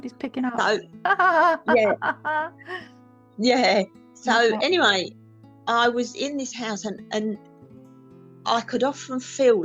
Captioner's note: laughter